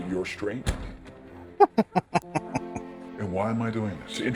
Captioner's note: chuckling